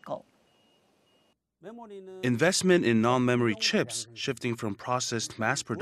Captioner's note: Korean